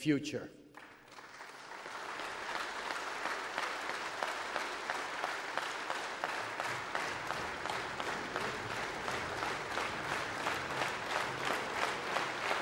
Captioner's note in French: Applaudissements